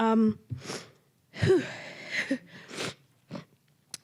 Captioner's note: sniffling